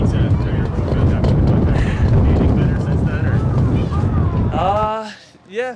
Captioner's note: wind blowing in microphone